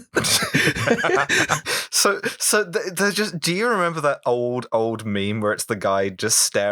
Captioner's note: laughter